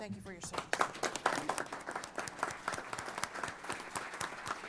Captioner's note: applause